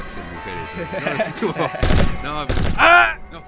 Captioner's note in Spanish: Risas de Burla